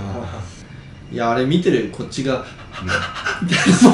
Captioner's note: panting noises